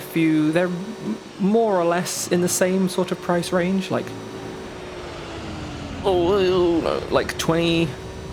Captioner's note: more panicking